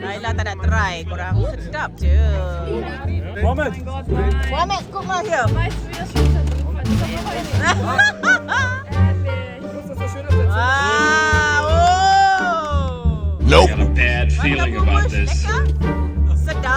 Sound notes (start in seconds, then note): 5.5 laugh; 5.5 speaking German